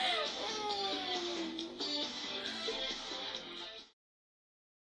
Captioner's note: giggle, sneer